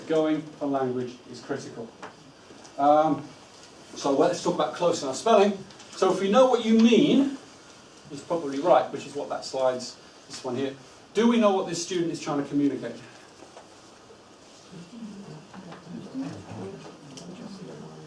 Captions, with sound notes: Knowing the language is critical. Let's talk about close enough spelling. If you know what you mean. It's probably right which is what that slides, this one here. Do we know what this student is trying to communicate? (group chatter)